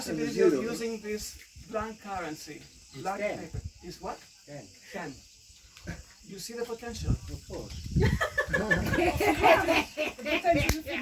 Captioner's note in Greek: Γέλια